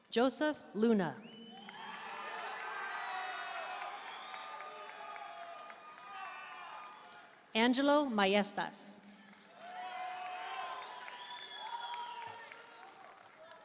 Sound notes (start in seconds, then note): 1.4 audience cheering and applauding; 9.1 audience cheering and applauding